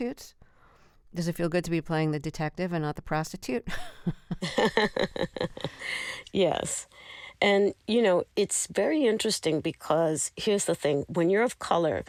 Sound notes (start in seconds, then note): 3.6 laughter